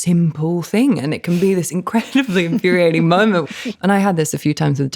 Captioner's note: laughing